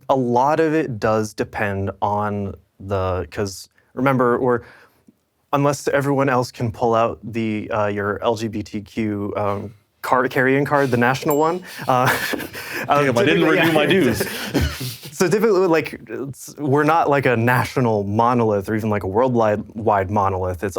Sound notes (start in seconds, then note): 11.6 all chuckling